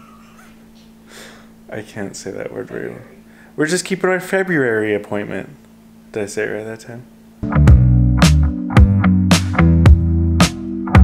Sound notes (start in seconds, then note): 0.6 laughing; 7.4 upbeat music